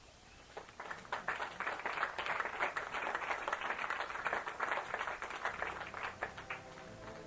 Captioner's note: applause